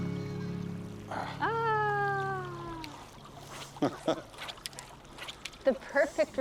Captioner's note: both laughing